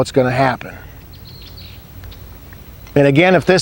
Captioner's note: nature sounds